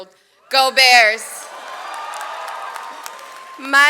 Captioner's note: audience cheers